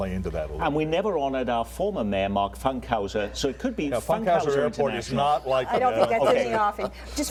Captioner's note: laughter